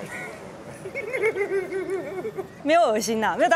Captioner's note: heartless laughter